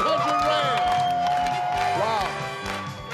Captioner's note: cheering